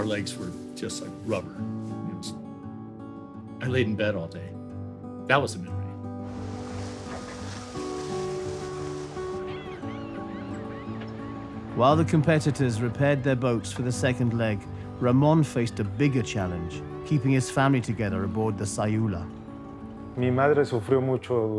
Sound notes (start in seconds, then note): 4.4 hose water rushing; 6.3 seagulls cawing; 18.4 in Spanish